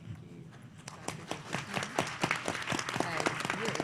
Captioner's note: applause